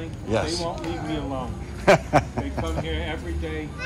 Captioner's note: laughs